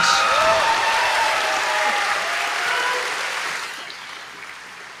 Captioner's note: applause